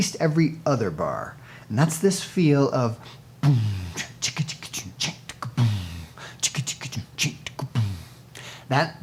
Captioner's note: sings drum beat with strong "boom" on downbeat